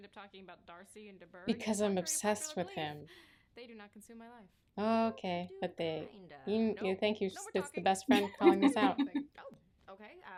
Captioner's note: mouth noises